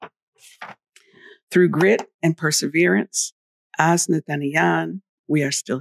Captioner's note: speaking in Wampanoag